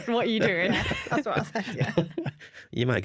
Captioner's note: laughter